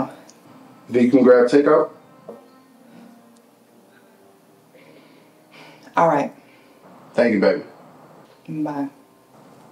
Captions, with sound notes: - Then you can grab take out? (somber music) - (sighs) All right. - Thank you, baby. - Bye.